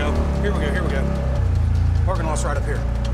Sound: engine revs

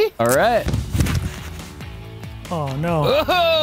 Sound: body whirring

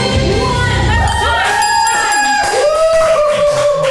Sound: timer dings; crew members cheering

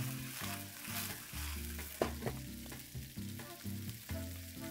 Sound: sizzling

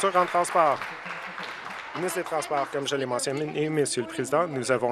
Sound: some Applause

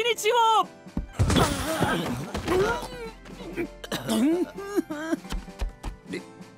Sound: Charismatics groan in absolute torture

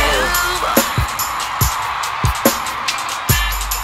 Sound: crowd cheering

